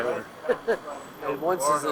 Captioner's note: man laughs